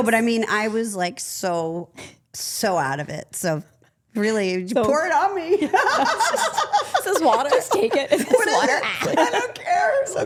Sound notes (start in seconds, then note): 6.0 laughs